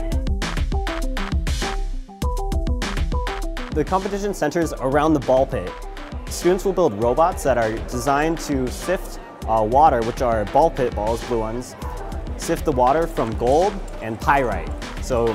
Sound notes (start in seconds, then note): 0.4 upbeat energetic music; 3.9 voiceover